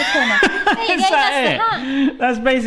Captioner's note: hearty laughter